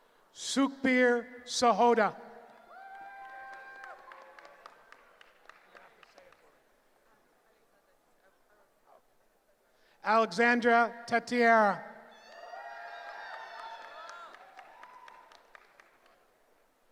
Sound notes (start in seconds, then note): 12.1 cheering